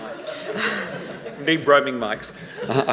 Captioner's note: laughing